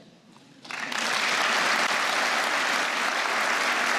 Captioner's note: applause